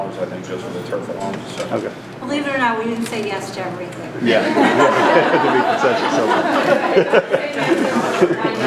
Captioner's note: laughter